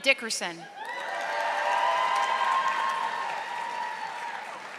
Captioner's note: audience applauding